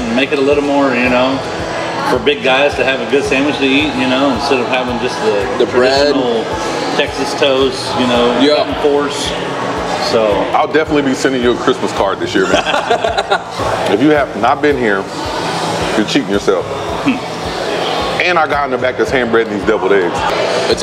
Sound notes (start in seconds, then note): 12.3 laughing